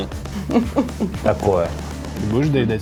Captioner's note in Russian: смех